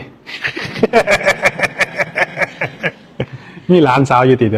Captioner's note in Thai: เสียงหัวเราะ